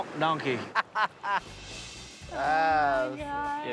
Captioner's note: Willie laughs